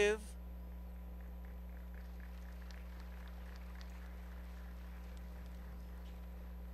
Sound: applause

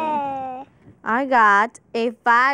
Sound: babbling

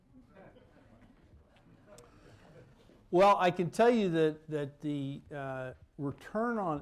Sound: laughter

